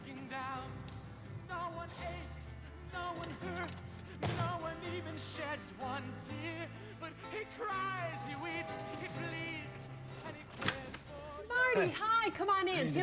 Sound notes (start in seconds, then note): 8.1 doorbell ringing